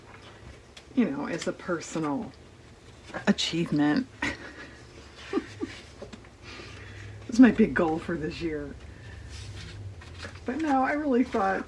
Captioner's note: laughs